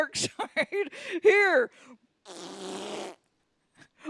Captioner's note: makes splatting fart sound